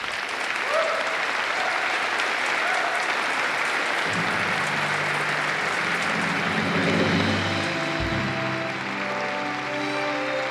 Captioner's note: applause; orchestral music playing